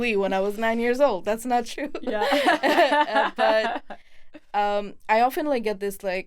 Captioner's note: both laughing